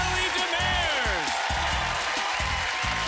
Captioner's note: applause